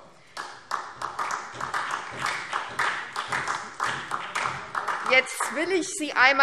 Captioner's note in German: Beifall SPD